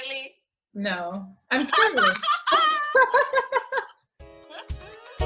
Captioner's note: laughter